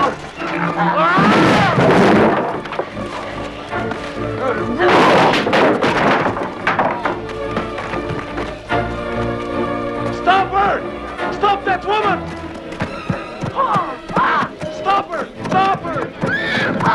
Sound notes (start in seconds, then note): 5.0 soldier groans; 7.9 dramatic music; 13.7 Hundra shouts at horse; 16.1 horse neighing; 16.4 Hundra shouting